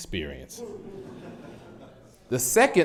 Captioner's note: audience laughs